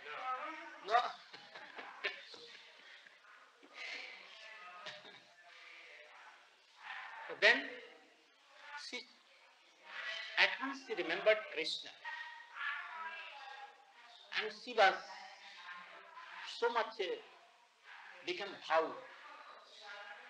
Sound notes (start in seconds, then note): 0.9 chuckles; 17.8 Hindi